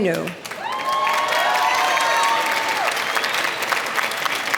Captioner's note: applause